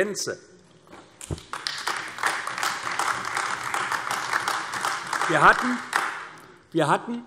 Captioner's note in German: Beifall AfD